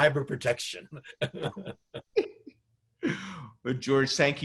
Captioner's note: both laugh